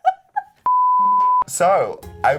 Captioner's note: laughing; beeping